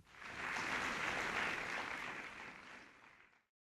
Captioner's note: audience claps